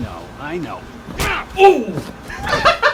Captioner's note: punches